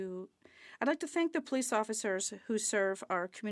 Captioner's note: speaking French